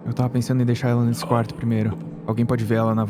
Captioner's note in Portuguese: Grunhidos